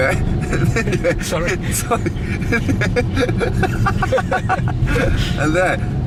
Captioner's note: laugh